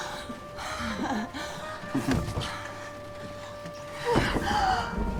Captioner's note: dramatic music; moaning; gasping